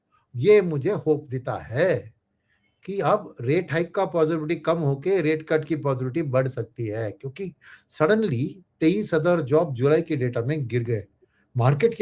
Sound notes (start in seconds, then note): none